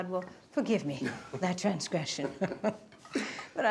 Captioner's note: both laughing